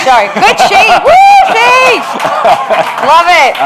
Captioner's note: both laugh